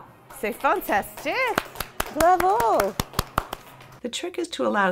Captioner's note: applause